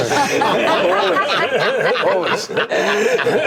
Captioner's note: laughter